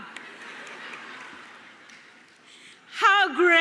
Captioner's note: laughter